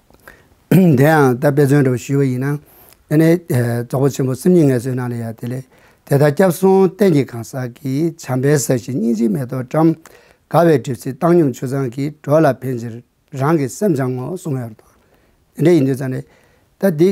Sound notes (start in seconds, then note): 5.3 reciting the Verse